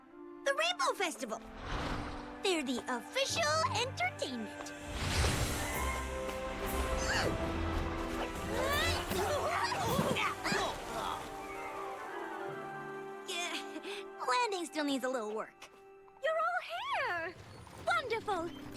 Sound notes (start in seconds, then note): 8.3 both grunt